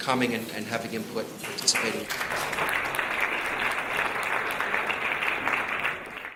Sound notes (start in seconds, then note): 3.0 audience applauding